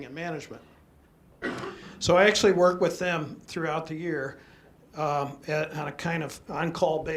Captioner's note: background cough